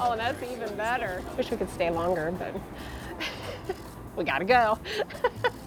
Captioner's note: laughs